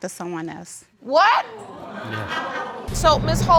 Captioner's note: audience laughs